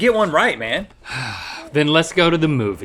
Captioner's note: sighs